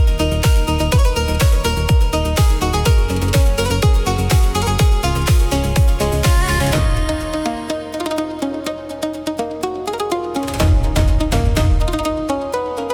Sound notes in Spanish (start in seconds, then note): none